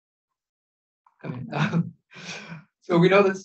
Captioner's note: chuckles